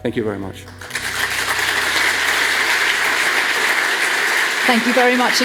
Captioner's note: audience applauds